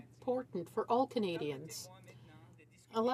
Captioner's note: speaking in french